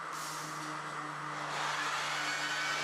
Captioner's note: engine whirring, saw screeching